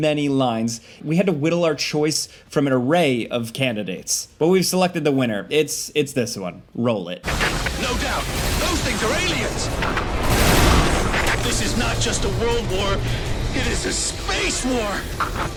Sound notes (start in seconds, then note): 9.8 object slams